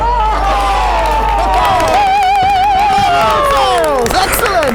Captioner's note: crowd cheering